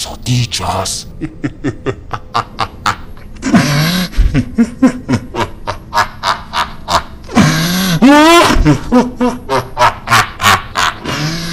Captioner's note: laugh